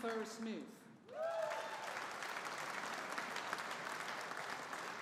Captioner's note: audience applauding